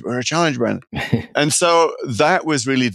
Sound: laughing

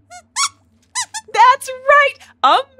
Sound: squeaks squeaks

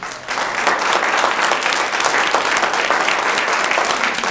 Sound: audience applauds

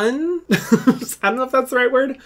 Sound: laughs

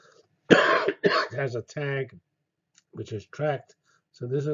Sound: cough

